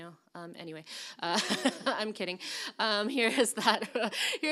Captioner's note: laughs